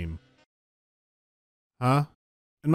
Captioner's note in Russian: неловкая тишина